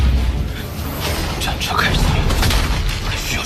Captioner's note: the war chariot starts